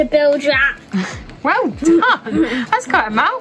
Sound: laughing

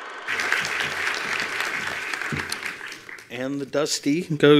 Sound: attendees applauding

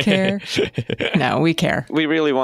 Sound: laughter

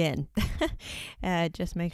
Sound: chuckles

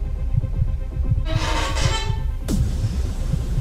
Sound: bow squeaks; anxiety-inducing music

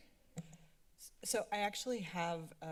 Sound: mic thump

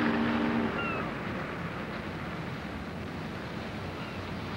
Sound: bird shrieks

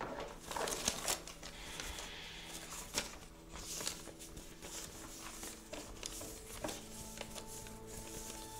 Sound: paper rustling

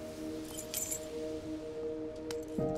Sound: keys jingling

